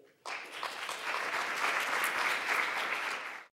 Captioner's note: applause